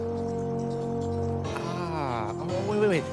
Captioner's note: laughs